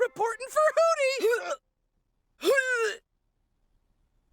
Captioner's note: dry heaving